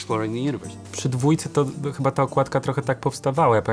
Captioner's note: in Polish